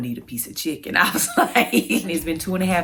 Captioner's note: laughs